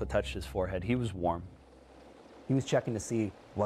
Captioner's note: voiceover